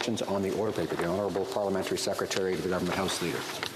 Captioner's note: speaking French